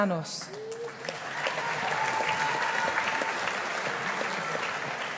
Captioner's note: audience applauding